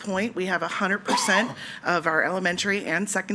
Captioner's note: attendee coughing